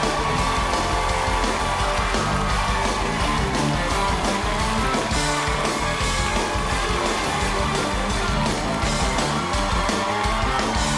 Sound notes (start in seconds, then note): 7.1 cheers and applause